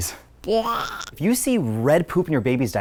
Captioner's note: child gagging